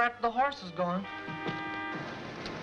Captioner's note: horn honking